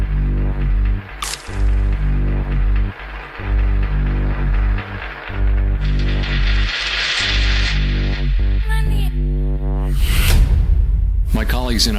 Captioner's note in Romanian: Aplauze